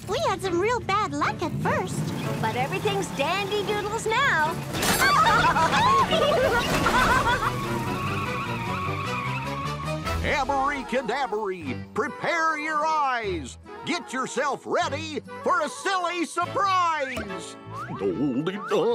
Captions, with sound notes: I sure hope so. We had some real bad luck at first. But everything's dandy doodles now. ( all laughing ) Abree cadabree. Prepare your eyes. Get yourself ready for a silly surprise.